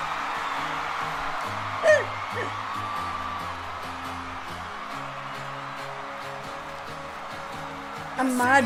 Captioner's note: audience Cheers